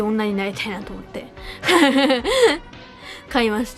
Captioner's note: chuckles